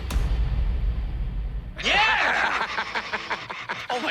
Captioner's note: laughs